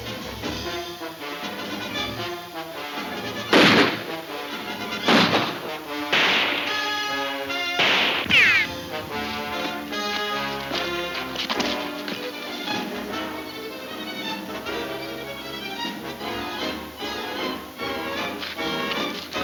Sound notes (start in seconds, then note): 3.5 guns firing; 7.1 gun firing; 7.1 ricocheting; 10.6 boots scuffing